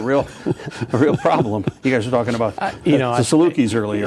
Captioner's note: laughing